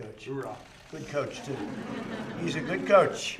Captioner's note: laughter